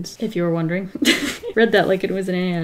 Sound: laughs

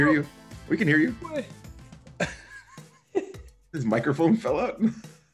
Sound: laugh

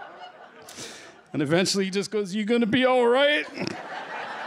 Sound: laughter; snickers

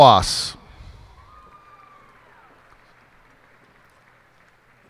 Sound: cheers and applause

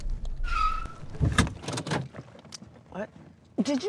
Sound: tires screech

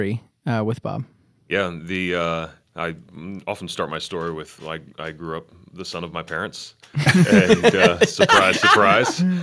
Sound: laughter

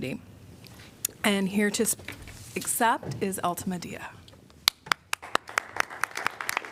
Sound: applause

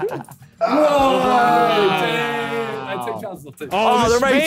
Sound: men cheering

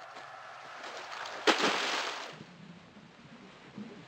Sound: heavy splash

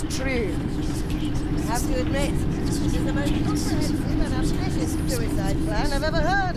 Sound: sassy ominous whispers

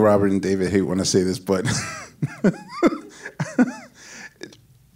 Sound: laughs happily

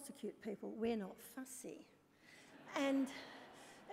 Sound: laughter

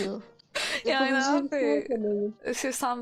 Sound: chuckling

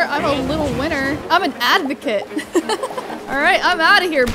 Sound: laughs

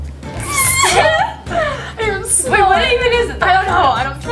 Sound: laughter

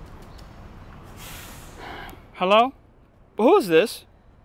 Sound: exhales

